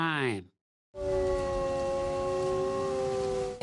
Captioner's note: wolf howl